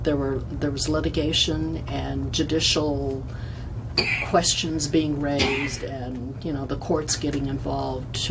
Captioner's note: coughs